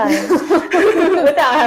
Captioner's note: laughing